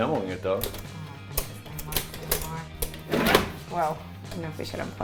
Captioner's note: buttons clicking